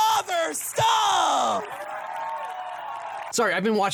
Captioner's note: crowd cheering and applauding